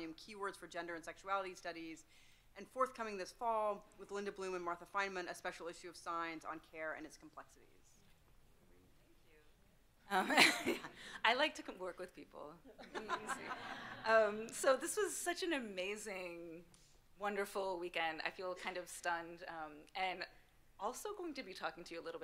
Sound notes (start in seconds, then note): 10.2 chuckles; 12.8 panel and audience laughing